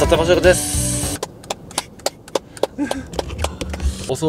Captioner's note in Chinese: 拍手聲